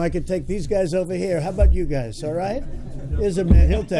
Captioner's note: laughter